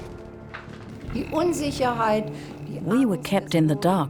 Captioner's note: speaks in foreign language